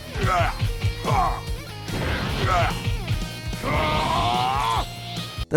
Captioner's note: blows landing; fighters grunting